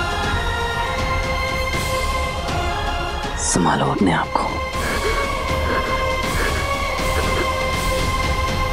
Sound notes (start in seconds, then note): 4.6 sighs